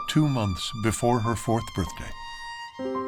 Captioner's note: none